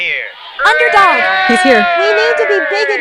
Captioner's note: everyone Cheers